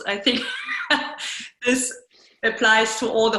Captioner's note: laughs